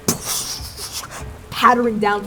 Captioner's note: rain splashing